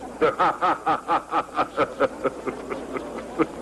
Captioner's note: laughing